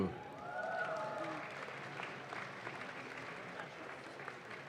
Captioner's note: audience claps